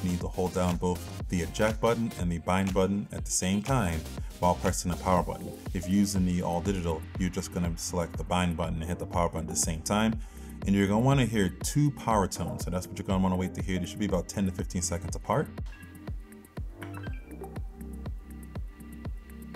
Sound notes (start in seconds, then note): 16.8 clicks; 16.9 upbeat music